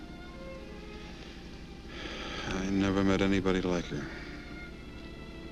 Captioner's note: sighs